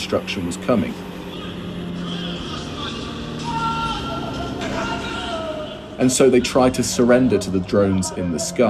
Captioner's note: soundbite of drone strike ambience